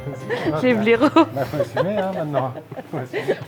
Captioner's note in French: rires